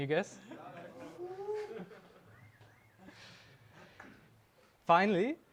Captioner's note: attendee cheering